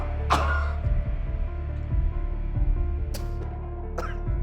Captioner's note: coughing; ominous music